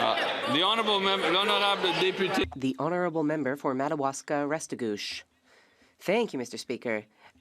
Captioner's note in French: voix de l'interprète